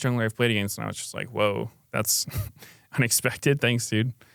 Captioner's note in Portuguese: risos